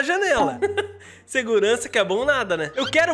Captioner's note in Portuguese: risos